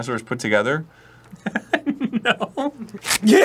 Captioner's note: starts to giggle a bit